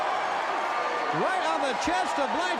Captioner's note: crowd cheering